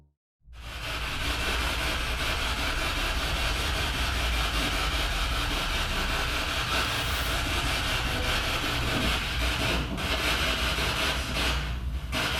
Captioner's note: radio noise from the spirit box